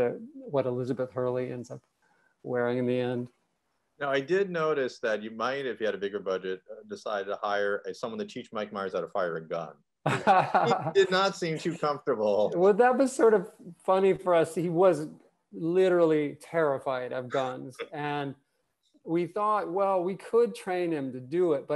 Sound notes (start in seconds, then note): 10.0 laughing